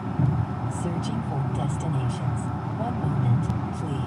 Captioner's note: car